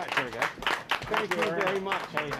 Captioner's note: applause